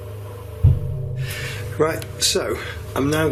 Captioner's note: tapping